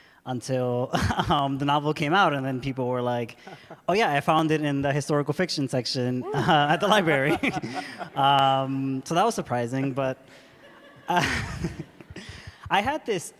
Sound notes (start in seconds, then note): 0.7 laughs; 6.3 laughter; 6.3 laughs; 10.3 laughter